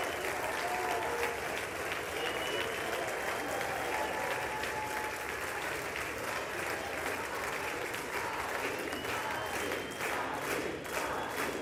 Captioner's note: applause